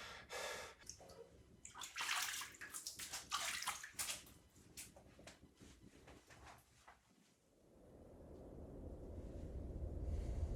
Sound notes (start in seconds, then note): 1.7 water splashing; 7.3 suspenseful music